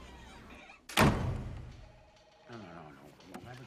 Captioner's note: door closing